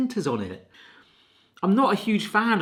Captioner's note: sniffing